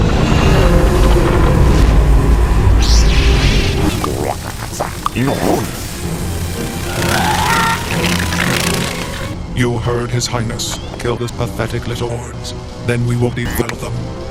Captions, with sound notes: (Poggle babbling) You heard his highness. Kill the pathetic little whores. Then we will defile them.